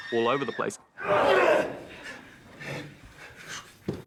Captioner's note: grunts